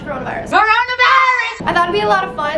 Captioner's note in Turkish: bağırarak